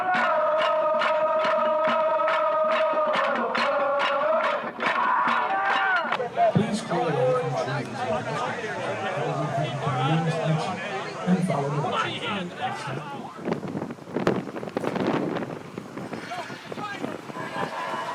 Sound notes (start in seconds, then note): 13.6 wind blowing